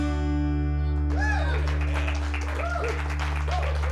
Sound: cheers and applause

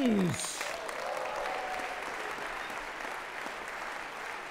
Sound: audience clapping

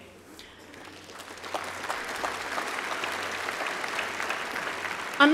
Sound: applause

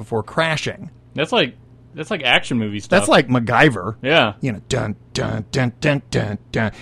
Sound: humms

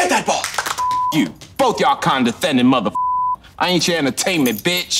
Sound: beep

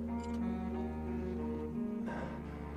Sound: exhales

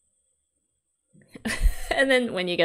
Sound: laughs

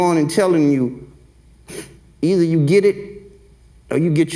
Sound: sniffles

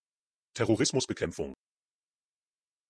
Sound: fast Pronunciation

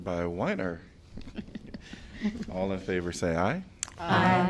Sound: laughter

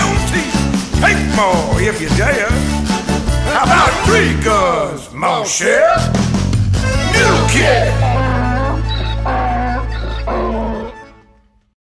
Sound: hee-Haw, hee-haw

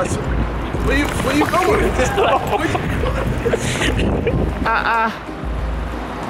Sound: laughing

